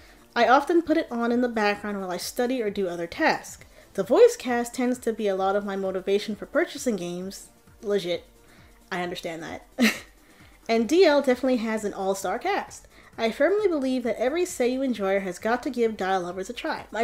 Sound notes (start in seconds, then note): 9.8 chuckles